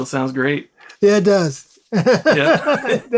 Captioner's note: laughs